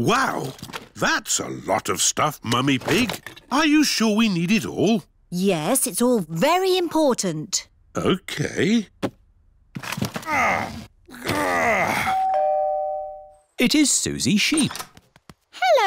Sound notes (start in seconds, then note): 10.2 groans; 12.1 doorbell rings